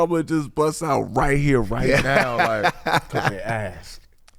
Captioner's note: laughing